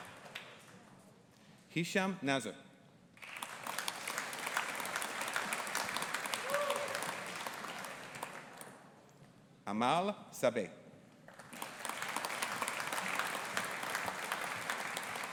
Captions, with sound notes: Hisham Naser. (AUDIENCE APPLAUDING) Amal Sabaa. (AUDIENCE APPLAUDING)